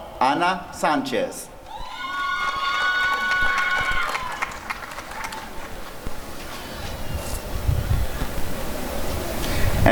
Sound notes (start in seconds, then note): 1.6 applause and cheering